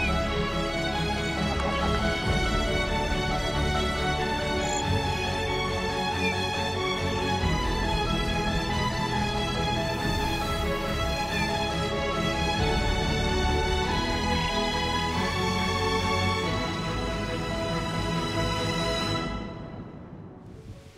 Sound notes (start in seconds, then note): 0.0 marsh bird sounds; 4.7 bird sounds